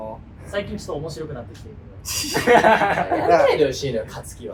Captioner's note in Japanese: 笑い声